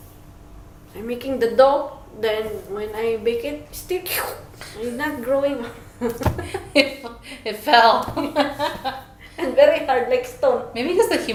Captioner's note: falling noise